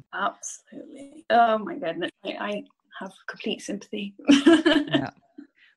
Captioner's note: laughs